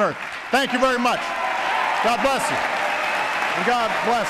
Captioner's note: applause